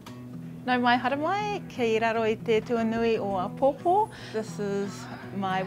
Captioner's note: speaking Māori